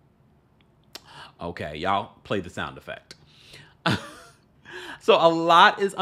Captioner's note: chuckles